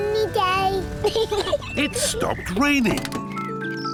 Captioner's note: peppa pig laughs